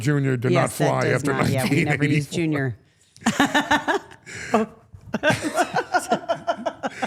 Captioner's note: Steph and Elyse laugh